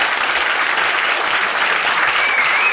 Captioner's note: whistling